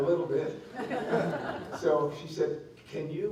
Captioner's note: laughter